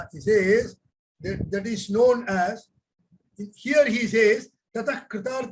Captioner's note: speaks in Hindi